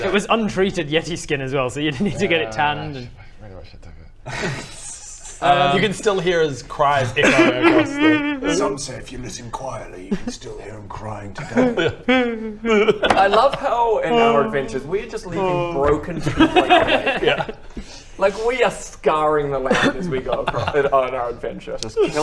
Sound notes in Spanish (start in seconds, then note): 7.2 Dirk sollozando; 11.4 gemidos